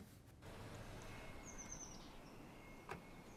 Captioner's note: bird chirp; door open close